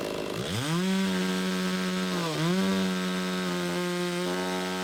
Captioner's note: saw buzzing continues